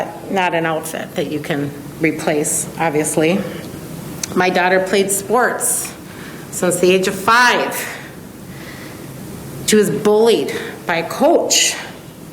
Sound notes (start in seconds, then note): none